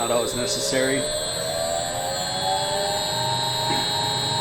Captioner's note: mill whirs